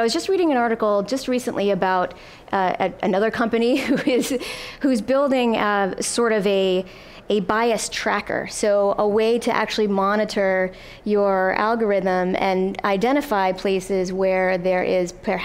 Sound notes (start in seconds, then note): 3.6 laughs